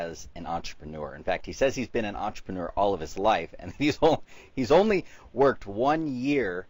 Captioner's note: laughs